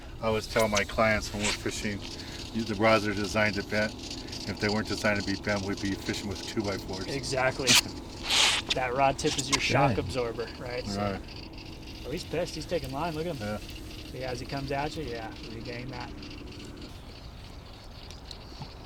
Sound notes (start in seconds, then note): 8.1 chuckling